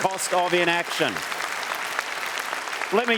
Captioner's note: applause